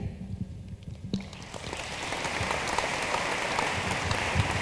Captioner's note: room applauds